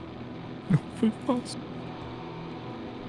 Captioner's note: sobs